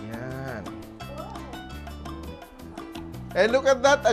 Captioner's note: murmurs